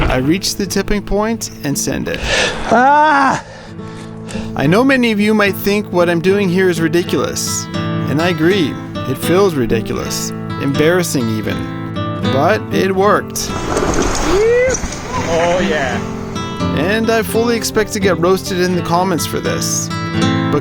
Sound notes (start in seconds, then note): 2.7 yells